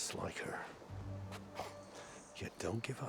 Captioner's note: laugh